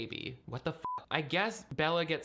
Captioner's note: beep